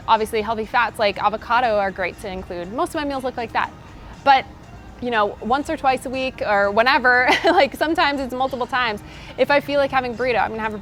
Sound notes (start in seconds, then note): 7.2 laughs